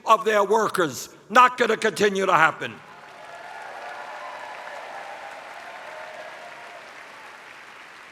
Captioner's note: cheers